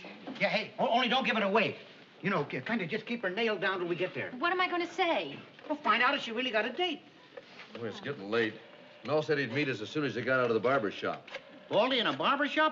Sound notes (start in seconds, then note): none